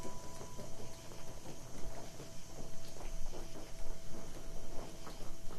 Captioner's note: eerie piano instrumental; night din